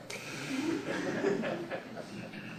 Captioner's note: laughter